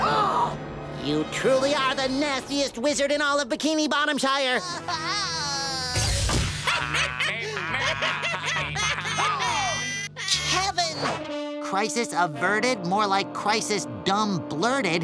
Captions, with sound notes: Ah! You truly are the nastiest wizard in all of Bikini Bottomshire! [crying] [laughing] Ah! Kevin! Crisis averted? More like crisis dumb-blurted.